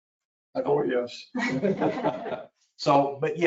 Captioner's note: people laugh